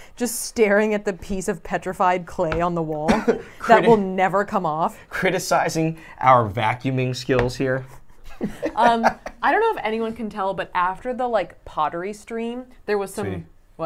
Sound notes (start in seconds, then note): 8.3 laughs